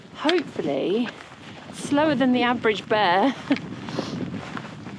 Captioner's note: giggle